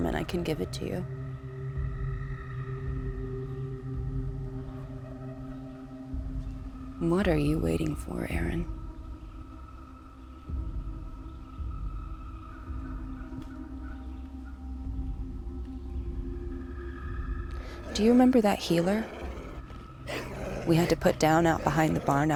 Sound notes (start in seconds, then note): 9.4 eerie music continues; 17.6 wolf growling